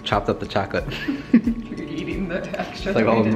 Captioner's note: laughing